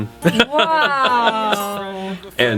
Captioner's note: laughter